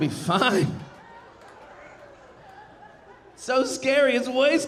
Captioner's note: audience laughing